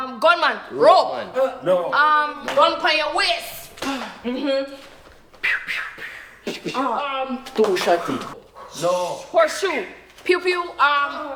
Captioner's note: multiple people talking